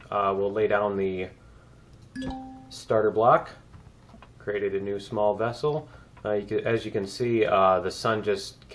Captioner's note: ding